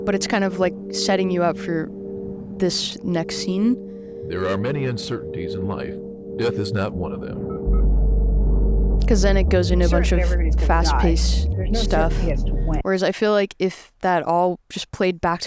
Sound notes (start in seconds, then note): 6.2 vitals monitor chirps; 7.4 weighty music